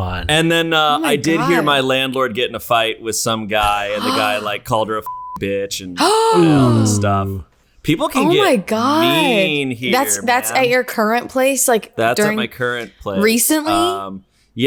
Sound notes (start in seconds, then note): 6.0 gasps